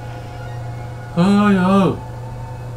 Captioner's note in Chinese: 驚嚇聲